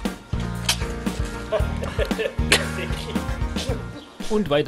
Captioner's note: giggl, giggl